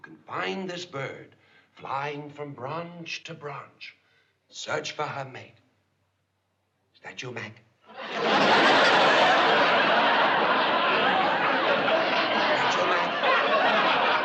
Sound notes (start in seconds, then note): 7.9 laughter